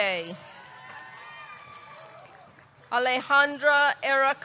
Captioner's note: audience cheering; audience clapping